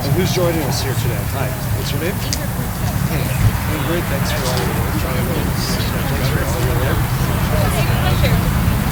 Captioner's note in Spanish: aplausos; charla de grupo